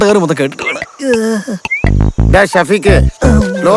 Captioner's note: groaning in pain